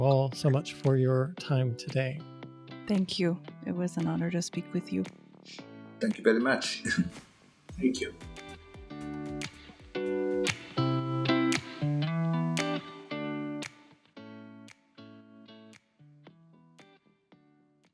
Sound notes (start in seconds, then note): 6.8 chuckles; 10.8 instrumental music